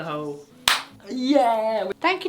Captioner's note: hands clap